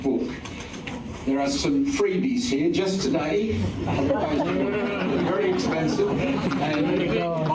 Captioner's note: laughter